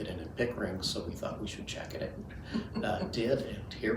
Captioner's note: chuckles